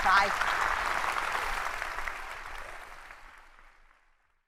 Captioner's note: applause